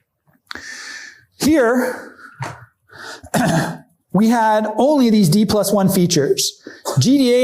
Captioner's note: coughs